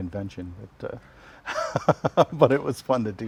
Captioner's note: laughs